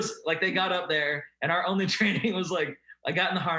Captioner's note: laughing